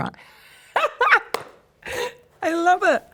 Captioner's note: laughs